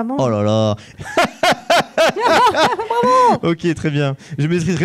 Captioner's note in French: Rire intense continu